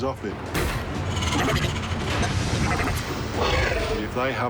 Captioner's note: robotic whirring